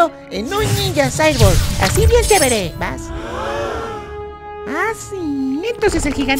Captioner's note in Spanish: none